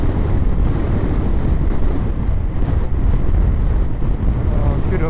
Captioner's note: the wind sound ~~ keeps getting worseeeee